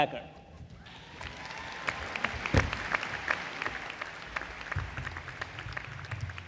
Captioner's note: applause